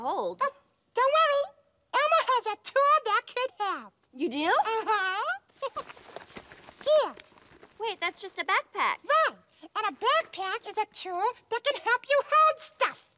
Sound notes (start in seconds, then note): 5.4 chuckles; 5.4 rummaging